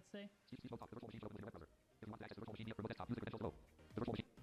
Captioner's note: computer voice babbles